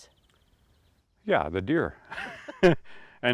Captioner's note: chuckle